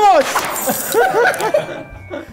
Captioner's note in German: Lachen